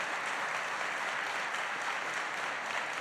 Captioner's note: applause